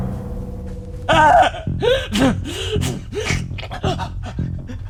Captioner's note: screams in agony